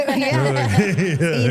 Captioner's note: everyone laughs